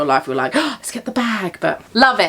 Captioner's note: gasps